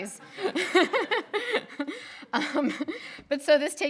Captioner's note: people laughing